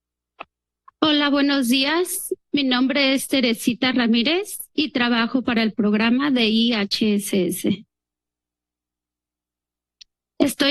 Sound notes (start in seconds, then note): 1.0 speaks in Spanish; 10.1 speaks in Spanish